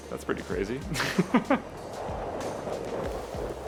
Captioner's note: laughs